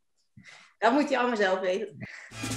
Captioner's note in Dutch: gelach